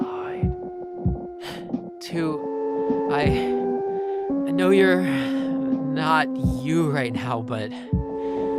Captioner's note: whispering; breathing heavily